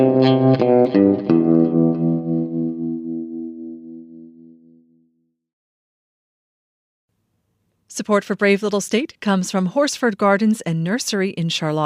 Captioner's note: chatter of greetings in Spanish